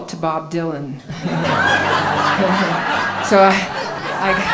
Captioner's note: laughing